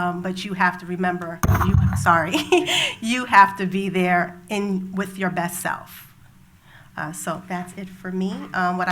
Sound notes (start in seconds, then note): 1.4 thump; 2.4 laughs